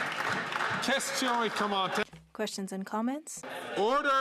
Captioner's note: some Applause